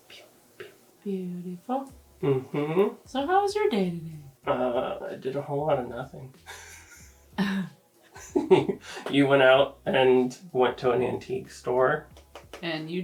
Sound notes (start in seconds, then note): 6.4 laughs